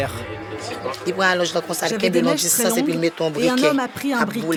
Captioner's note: French spoken audio